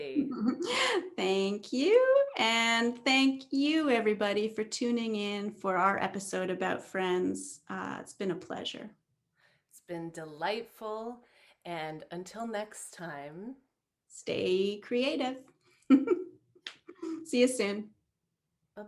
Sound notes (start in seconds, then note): 0.2 chuckles; 15.9 chuckles